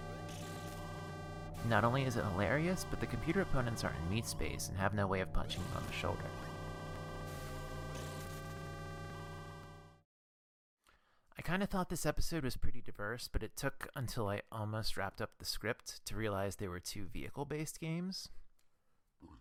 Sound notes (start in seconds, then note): 6.2 horn continues; 19.2 burp